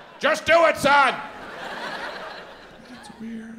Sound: audience laughs

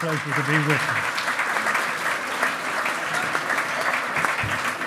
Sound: loud clapping

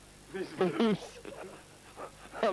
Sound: chuckles

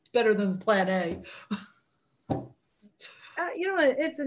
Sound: laughs; thumping

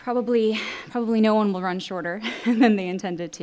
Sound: chuckles

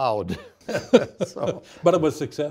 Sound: both laughing

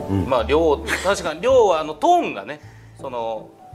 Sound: chuckles because it's funny

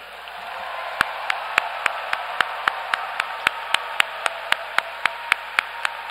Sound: applause

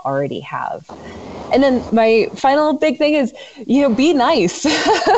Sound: laughs

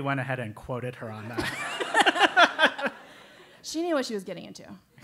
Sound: laugh

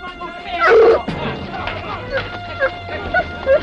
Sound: Skeeter shouting; dogs yelping

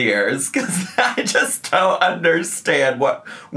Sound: laughs

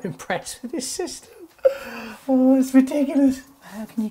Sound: laughs

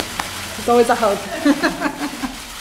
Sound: laughter

